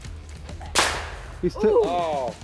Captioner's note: weapon blasts